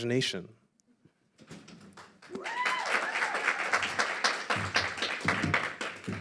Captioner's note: applause and crowd whistles